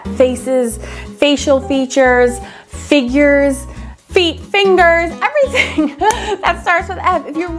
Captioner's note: laughs